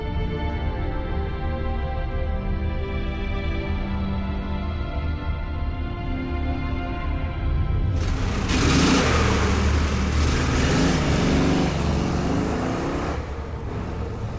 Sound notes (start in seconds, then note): 7.9 engine rumbling